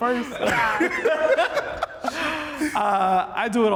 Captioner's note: laugh